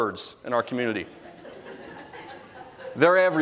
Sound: congregation laughs

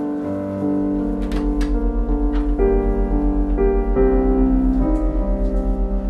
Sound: low, ominous humming sound

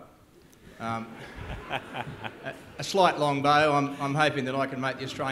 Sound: laughter

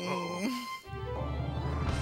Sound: groans

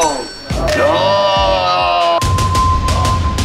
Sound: the rice-soup villain is cheering

